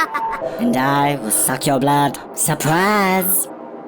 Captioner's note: Laughs in Vamp